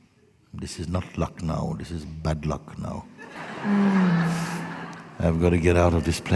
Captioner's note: laughter